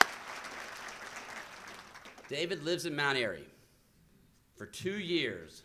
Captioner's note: applause